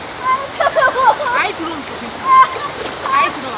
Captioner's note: screaming